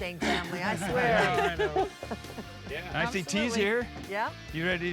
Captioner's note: everyone laughs